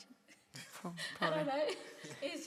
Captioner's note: participants laugh